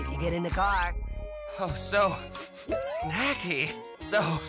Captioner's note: sniff-sniff